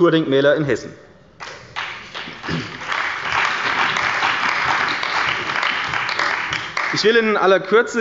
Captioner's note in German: Beifall bei der CDU und dem BÜNDNIS 90/DIE GRÜNEN